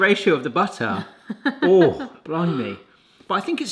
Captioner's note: laughs